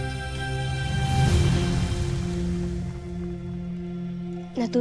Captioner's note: sparkling whoosh, infernal whoosh-crackle